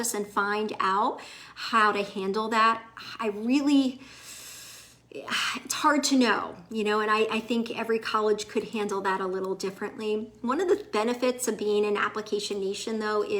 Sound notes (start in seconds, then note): 4.0 deeply inhales